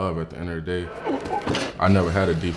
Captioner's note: metal clanking